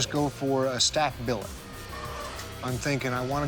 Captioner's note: machine whirring